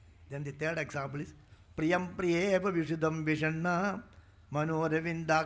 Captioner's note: speaking in Sanskrit